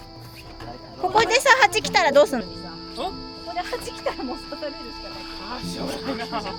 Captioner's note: laughs